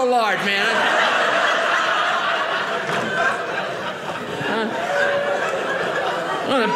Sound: audience laughing

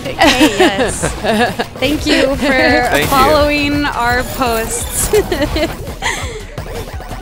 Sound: gremlin alien giggles

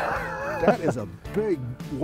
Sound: laughing

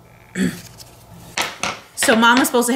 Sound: grunts

